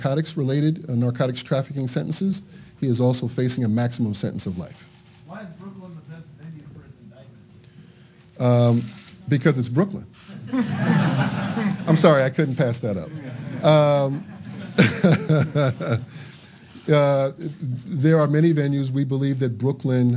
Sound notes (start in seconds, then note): 10.3 laughter